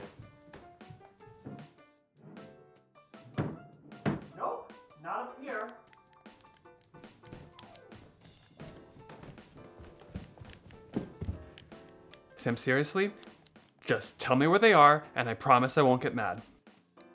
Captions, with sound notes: [drawers opening and closing] Jonathan - Nope not up here! [running down the steps] Sam, seriously. Just tell me where they are and I promise I won't get mad.